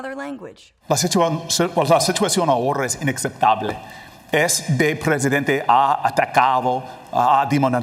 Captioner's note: in terrible accent